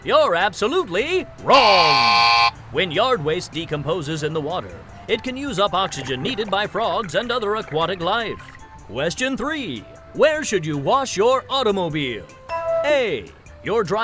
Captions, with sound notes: If you guessed true, you're absolutely [buzzer] wrong! When yard waste decomposes in the water it can use up oxygen needed by frogs and other aquatic life. Question 3